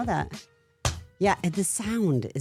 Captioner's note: hands clap